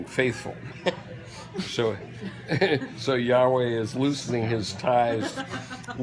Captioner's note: chuckle